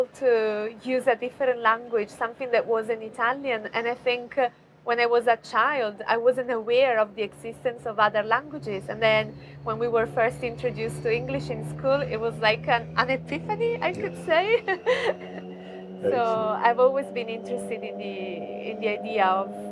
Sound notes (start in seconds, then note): 14.3 chuckles